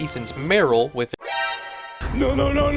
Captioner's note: Metal Gear Solid alert sound